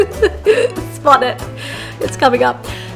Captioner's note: laughs